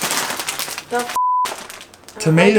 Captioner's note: beep